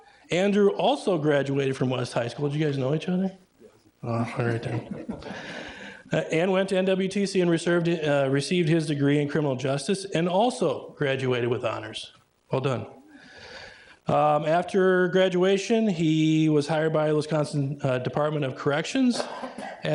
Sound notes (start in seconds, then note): 4.2 everybody laughing